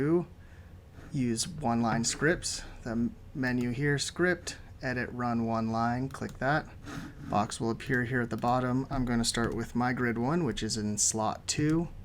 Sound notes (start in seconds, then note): 6.0 click